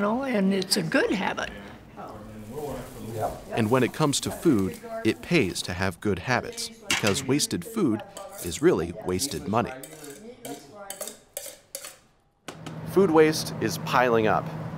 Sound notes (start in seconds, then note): 9.7 plates being scraped